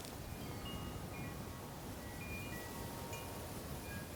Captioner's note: chimes jingling